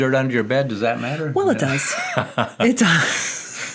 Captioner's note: laughs